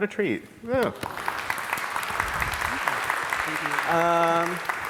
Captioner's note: audience applauds